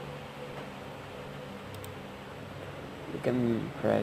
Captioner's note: mouse click